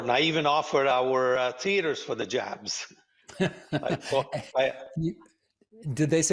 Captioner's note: laughing